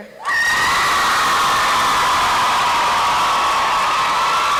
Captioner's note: applause and cheering